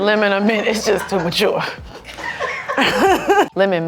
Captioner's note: crew laugh